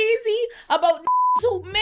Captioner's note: beep